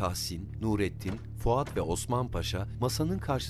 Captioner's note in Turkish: Müzik - Gerilim; Kapı açılma sesi